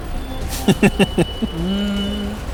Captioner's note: chuckles